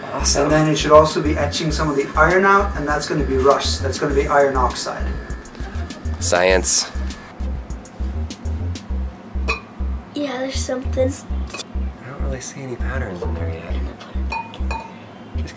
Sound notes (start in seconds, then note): 12.2 voiceover